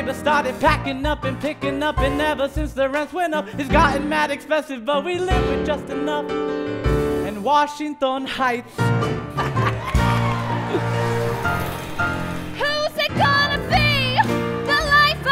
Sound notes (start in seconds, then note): 9.0 laugh; 9.8 applause